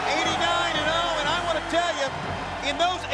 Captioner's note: crowd cheering